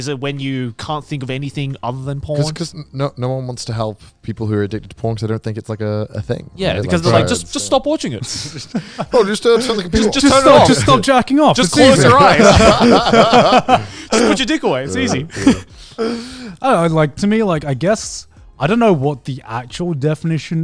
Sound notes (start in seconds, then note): 8.3 laughing; 11.6 all laughing